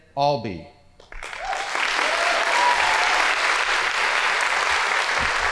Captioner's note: audience applauding